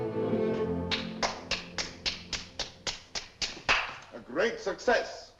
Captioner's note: Cyrano claps his hands